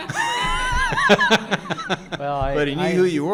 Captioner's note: laughing; audience laughing